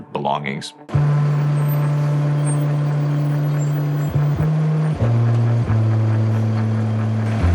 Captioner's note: dramatic music; engine rumbling